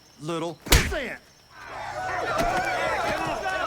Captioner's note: fist pounding drowns out dialogue; group clamoring